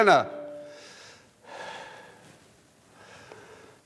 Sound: alarm stops

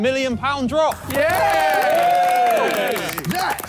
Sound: all cheering and clapping

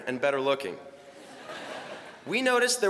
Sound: laughter

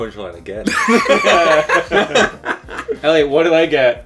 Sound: laughing

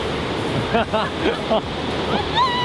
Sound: feat. Someone's evil laugh

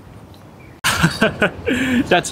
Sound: laughs

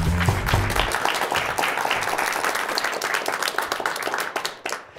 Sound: applause

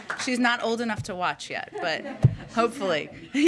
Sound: laughter

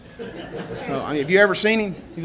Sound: reporters laugh

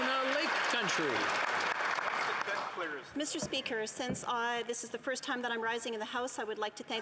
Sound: some Applause

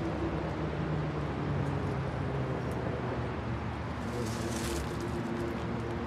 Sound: vehicle traffic on background

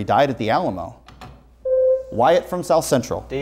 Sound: buzzer sounds

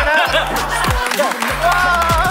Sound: clap

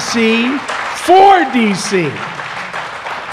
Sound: applause

